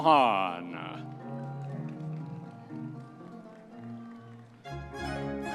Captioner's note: audience members cheering